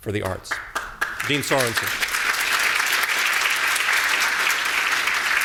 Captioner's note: audience applauding